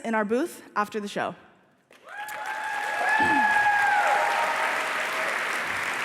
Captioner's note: applause